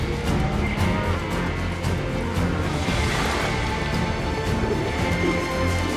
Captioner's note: cattle mooing